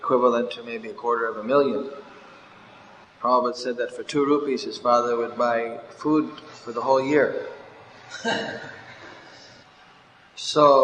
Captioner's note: laughter